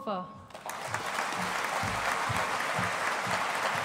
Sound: audience applauding

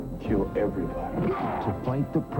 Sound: football noise

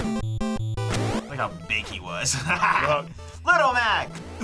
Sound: upbeat music; laughs

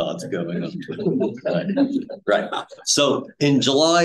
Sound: audience laughing

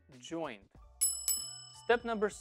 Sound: bell dinging

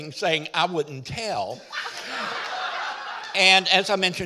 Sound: audience laughing

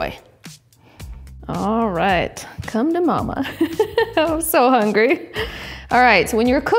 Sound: laughs

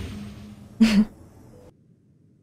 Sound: laugh

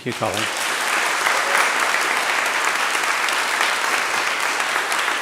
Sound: attendees applauding

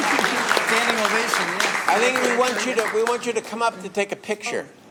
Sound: applause

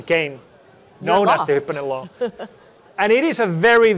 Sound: chuckles

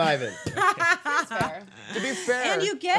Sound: laughing

